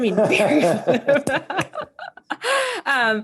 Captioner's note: laughs